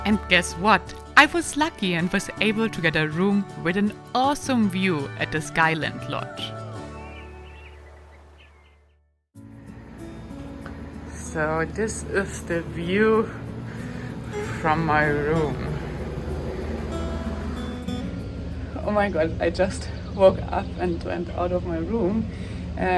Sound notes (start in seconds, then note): 7.4 birds chirping; 16.9 gentle music